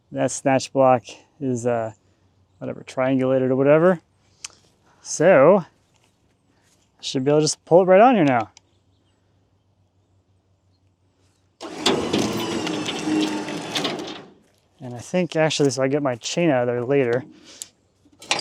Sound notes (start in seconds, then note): 11.6 machinery humming